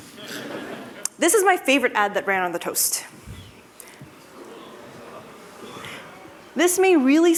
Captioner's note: laughter